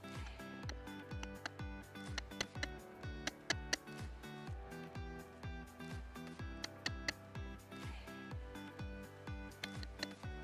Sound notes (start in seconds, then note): 2.1 clicks tongue; 6.6 clicks tongue